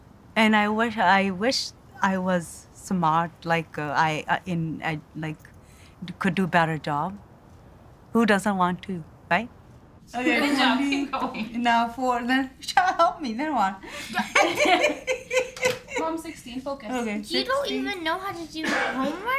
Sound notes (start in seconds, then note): 10.1 laughing; 14.0 hard laughter